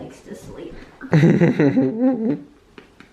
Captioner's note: chuckles